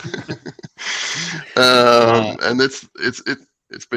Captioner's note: laughter